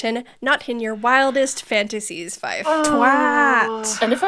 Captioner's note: groans